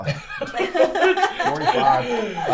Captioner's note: laugh